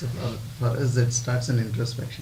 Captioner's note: laughs